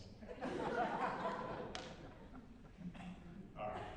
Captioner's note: laughter